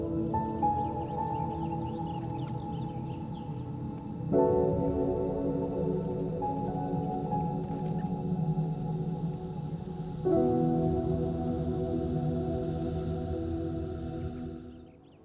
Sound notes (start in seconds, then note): 0.0 serene music; 0.3 birds chirping; 12.2 birds chirping; 12.2 serene music